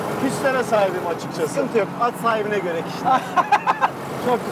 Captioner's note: laughing